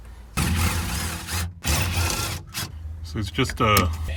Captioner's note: drill torquing